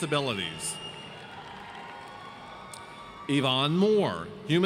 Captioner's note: audience cheers